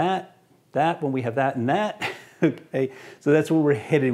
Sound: laughs

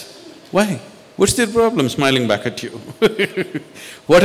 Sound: laughs

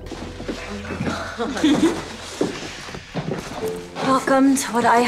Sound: laughs

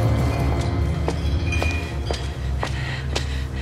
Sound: bottles clang

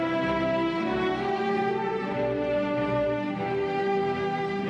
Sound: none

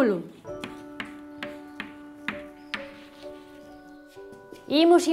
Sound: sound: chalk on blackboard

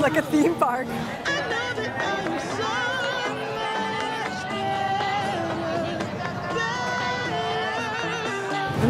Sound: indistinct chattering

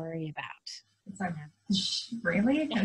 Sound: makes explosion sound

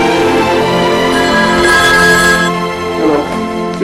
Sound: telephone ringing

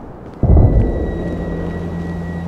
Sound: multiple distant gunshots

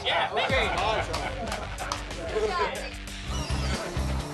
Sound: loud chatter

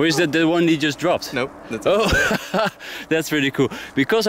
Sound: laughs

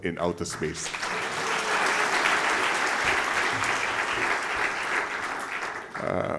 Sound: applause

